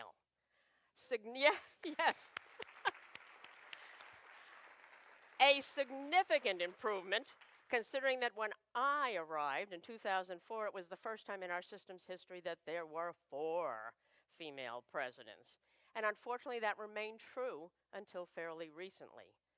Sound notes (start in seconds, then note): 1.8 applause